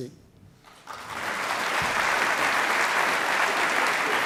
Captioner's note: applauding